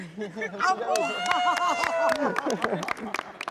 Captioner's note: cheering